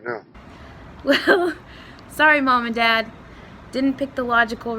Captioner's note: chuckles